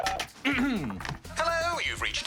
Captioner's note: clears throat